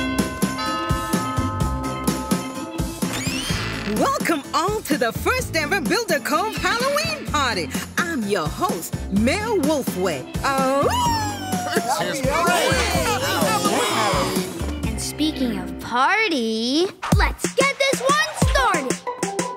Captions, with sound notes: Welcome all to the first ever Builder Cove Halloween party. I'm your host, Mayor Wolfway. [howling] [cheering] And speaking of party, let's get this one started.